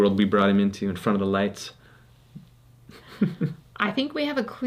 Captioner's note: chuckles